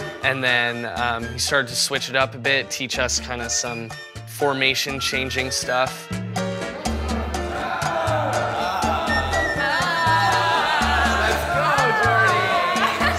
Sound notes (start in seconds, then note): 6.6 excited